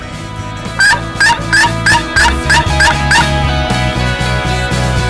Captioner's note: turkey calls; inspirational music plays